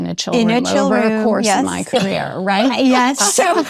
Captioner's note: laughs